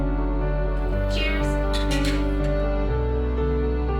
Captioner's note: glasses clinking; uplifting piano music